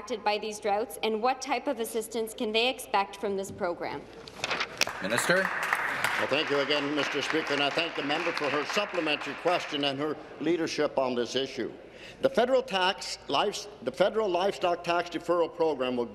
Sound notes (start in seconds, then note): 9.5 some Applause